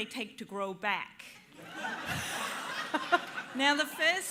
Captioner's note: laughter